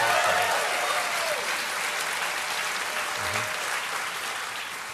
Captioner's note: cheers and applause